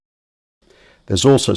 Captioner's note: silence